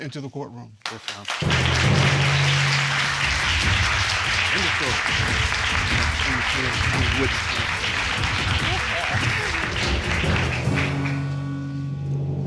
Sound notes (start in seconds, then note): 2.2 all clapping